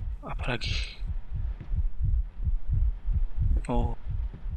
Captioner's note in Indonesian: detak jantung